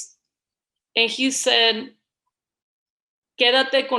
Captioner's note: foreign language